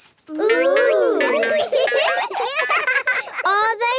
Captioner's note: laughing